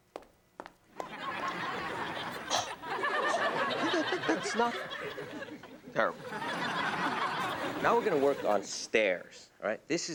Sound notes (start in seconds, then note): 0.9 audience laughs